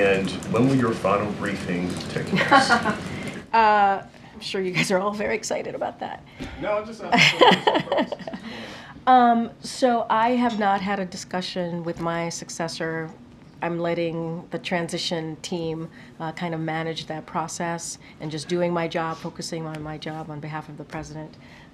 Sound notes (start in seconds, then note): 2.3 laughs